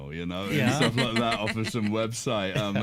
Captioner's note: chuckles; laughs